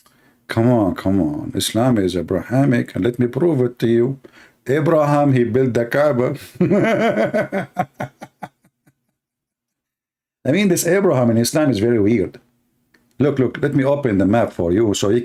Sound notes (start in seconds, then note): 6.5 Ketawa